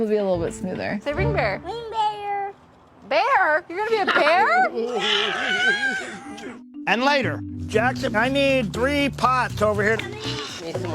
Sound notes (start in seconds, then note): 4.2 growls